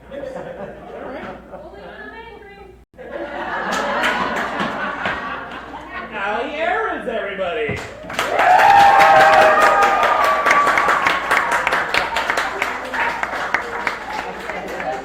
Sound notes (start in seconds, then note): 0.0 crowd laughs; 5.9 crowd laughs; 7.7 crowd cheers